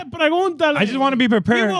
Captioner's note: speaking In Foreign Language